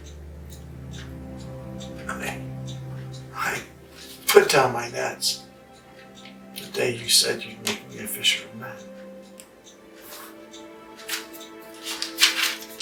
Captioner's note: page turning